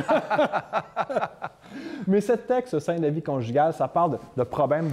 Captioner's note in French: rires